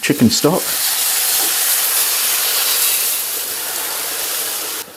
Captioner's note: sploosh sizzle